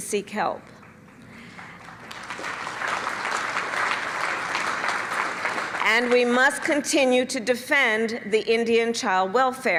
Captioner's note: applause